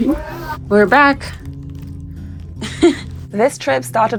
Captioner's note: speaker laughs